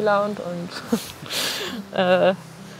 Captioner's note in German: Lachen